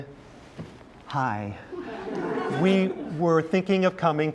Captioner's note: laughs